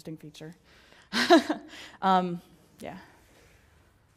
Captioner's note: laugh